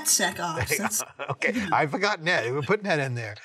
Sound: man chuckling

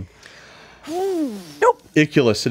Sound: player exhales heavily

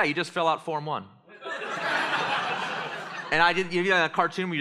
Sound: laughter

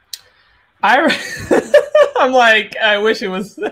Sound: laughs

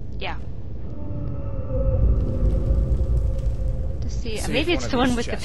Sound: dragon roars

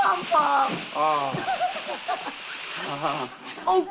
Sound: chuckles

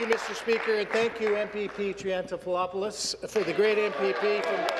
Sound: applause

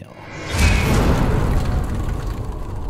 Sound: impact

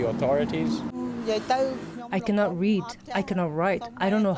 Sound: through translator

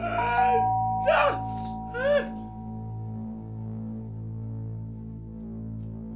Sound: doorbell rings; creature gasps

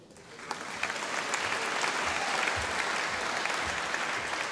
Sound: audience applauding

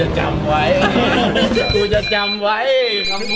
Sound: laughs; laughing continues

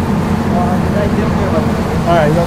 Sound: boat drowns out speaker

